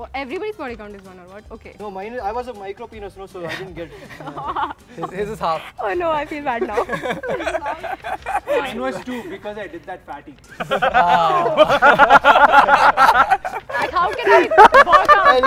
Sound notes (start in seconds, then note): 6.9 laughs; 10.5 laughter